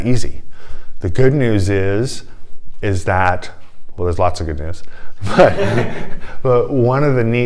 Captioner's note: laughter